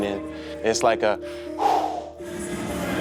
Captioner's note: soupir